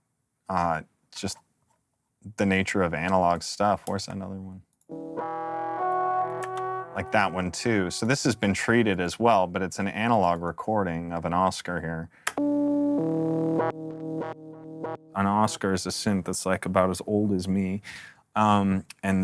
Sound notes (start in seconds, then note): 4.9 fading tone; 12.4 digital tones